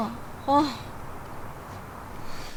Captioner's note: Jiwon sighs